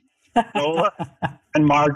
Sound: laughs

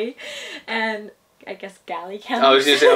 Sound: laughs

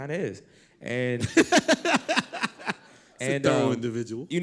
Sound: laughter

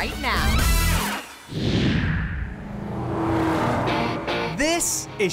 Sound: whoosh

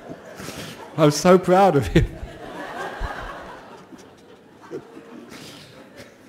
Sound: laughter

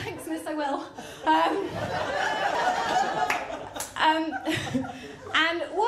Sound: laughter

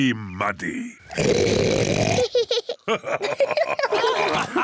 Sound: oinks loudly; both laugh

